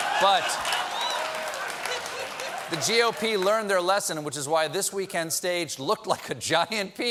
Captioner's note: laughter